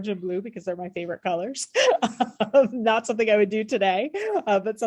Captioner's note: laughter